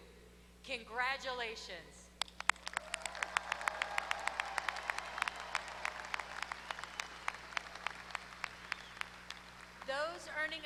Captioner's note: applause